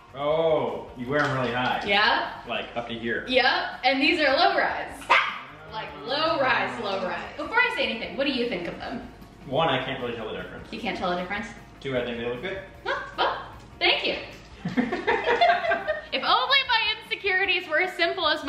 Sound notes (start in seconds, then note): 14.6 laughing